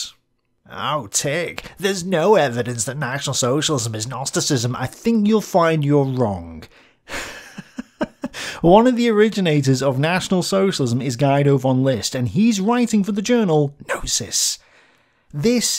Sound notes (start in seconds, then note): 7.1 laughs